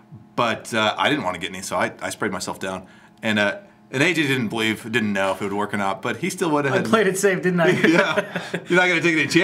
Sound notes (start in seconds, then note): 7.6 laughs